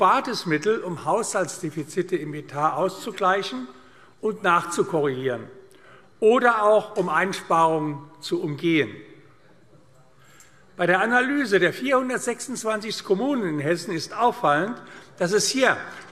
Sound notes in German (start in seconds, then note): none